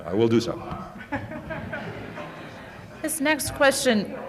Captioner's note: laughter